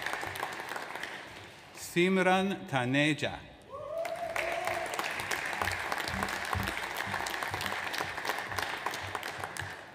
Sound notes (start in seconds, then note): 3.9 audience applauds